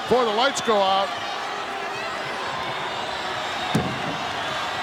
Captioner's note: audience cheering